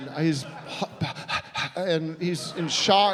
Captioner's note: panting